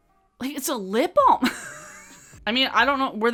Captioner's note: chuckles